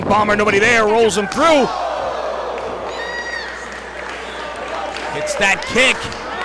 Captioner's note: applause